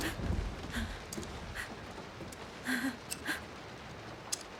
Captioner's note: scissors clipping